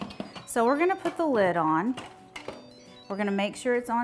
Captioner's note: instant Pot chimes